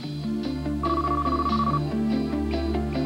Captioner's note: chirpy '90s carphone ring